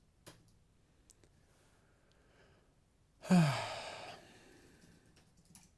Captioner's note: silence; silence